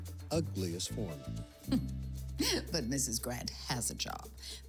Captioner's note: chuckles